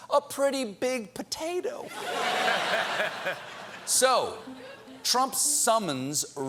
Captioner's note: laughter